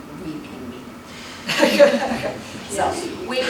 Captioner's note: laughter